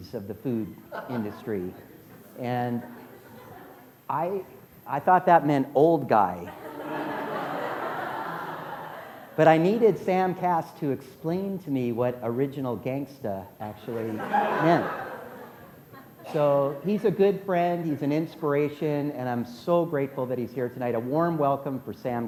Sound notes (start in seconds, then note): 13.9 laughter